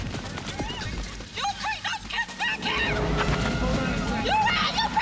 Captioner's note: woman screaming